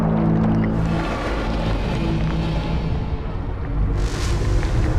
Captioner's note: monster rasping softly; soft intense music